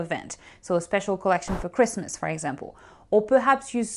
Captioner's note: air whooshing